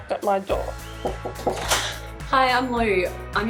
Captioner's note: knocking on door